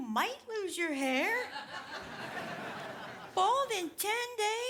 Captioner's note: audience laughs